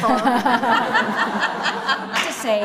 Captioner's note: laughter